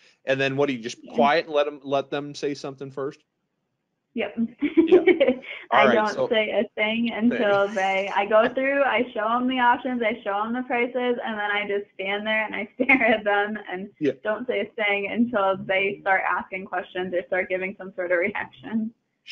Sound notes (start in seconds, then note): 4.6 chuckling